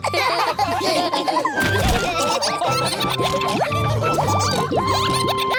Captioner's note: all laughing